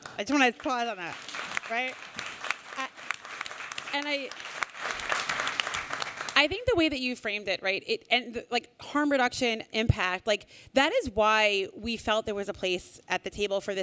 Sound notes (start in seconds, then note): 1.7 applause